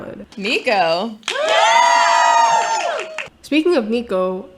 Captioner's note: crowd